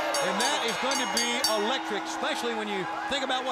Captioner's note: bell ringing